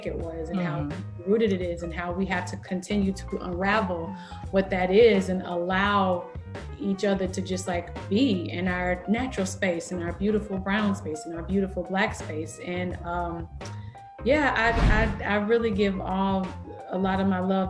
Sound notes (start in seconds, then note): none